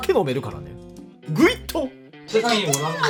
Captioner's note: slurp